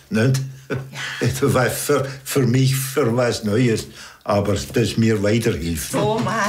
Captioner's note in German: lachend